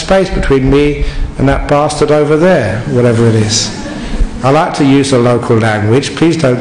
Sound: laughter

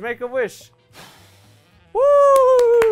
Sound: blowing air; hands clapping

